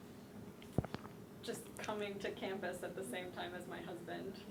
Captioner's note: voiceover